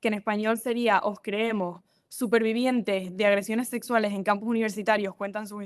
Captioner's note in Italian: italiano